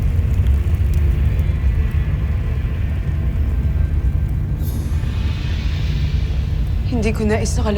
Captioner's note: molten surge rumbles